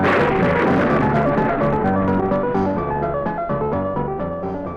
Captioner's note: thunder crashes